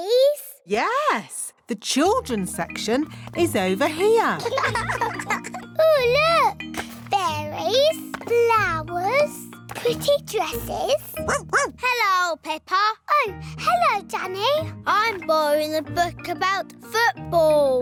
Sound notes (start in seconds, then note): 4.4 laughter; 11.2 barks